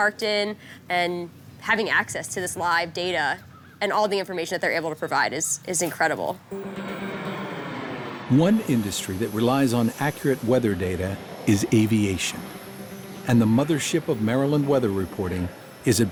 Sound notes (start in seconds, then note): 6.9 roar of airplane engine